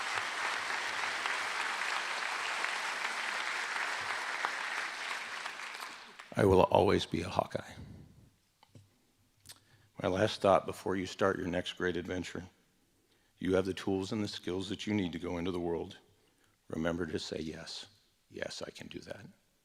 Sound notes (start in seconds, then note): 3.6 applause